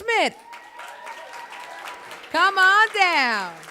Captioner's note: audience applauds